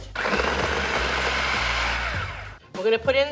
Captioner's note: machine whirring